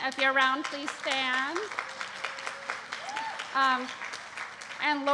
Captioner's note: applause